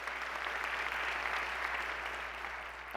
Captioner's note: applause